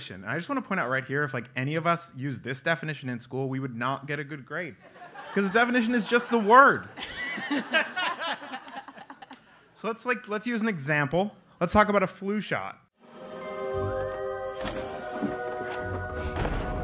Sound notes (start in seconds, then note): 6.8 laugh